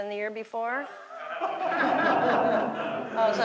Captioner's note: laughter